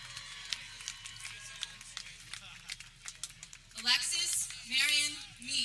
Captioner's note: people cheering